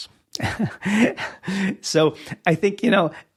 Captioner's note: laughs